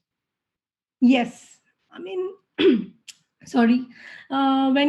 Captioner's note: clears throat